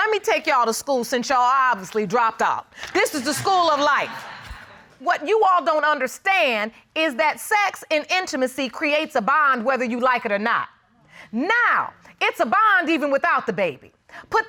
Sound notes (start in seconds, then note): 3.0 audience laugh